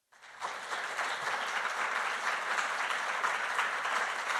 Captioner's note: audience applauding